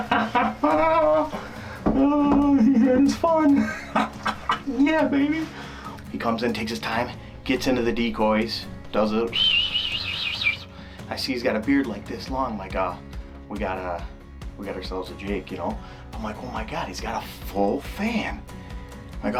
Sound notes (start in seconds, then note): 0.0 laughs; 9.2 whistling sound